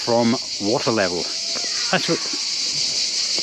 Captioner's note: distant shout/scream